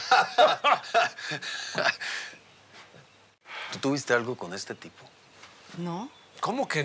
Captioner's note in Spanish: ambos ríen